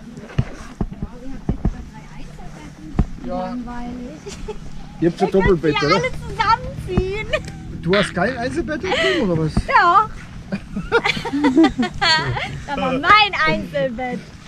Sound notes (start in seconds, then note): 10.5 laughter